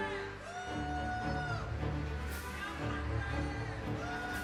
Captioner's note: audience cheering